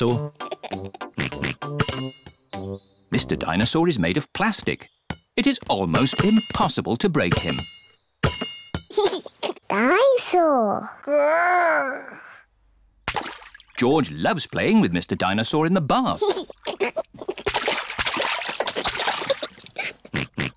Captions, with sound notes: (LAUGHS AND OINKS) Mr. Dinosaur is made of plastic. It is almost impossible to break him. (GIGGLES) Dine-saur! Grr! George loves playing with Mr. Dinosaur in the bath. (GIGGLES) (OINKS)